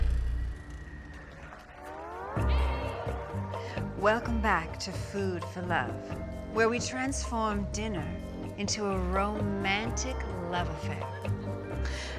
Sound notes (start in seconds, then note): 1.9 cheers